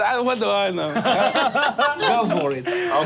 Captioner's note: group laughing